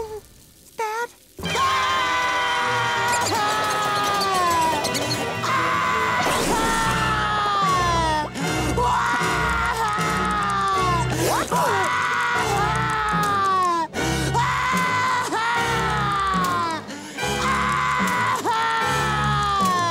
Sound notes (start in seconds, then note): 1.4 screaming; 8.8 crying